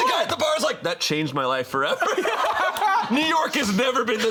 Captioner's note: all laughing